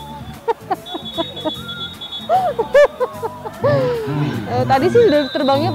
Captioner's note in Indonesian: Ketawa